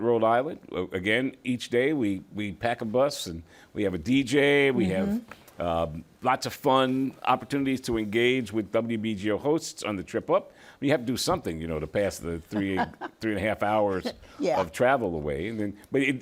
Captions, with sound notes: in Newport, Rhode Island. Again, each day we pack a bus, and we have a DJ. We have lots of fun opportunities to engage with WBGO hosts on the trip up. We have to do something, you know, to pass the 3 1/2 hours... - [laughs] - Yeah. - ...of travel away.